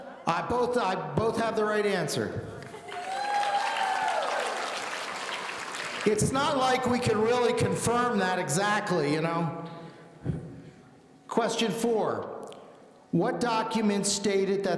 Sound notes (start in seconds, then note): 2.8 audience cheering